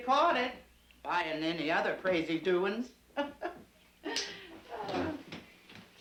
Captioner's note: chuckling